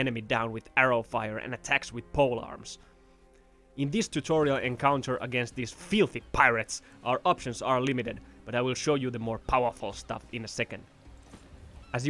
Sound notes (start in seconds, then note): none